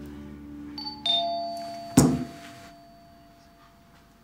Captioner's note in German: Türklingeln